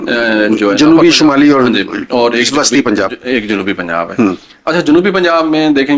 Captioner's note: clears throat